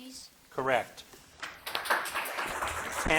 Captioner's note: audience clapping